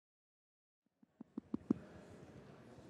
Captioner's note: microphone tapping; audience chattering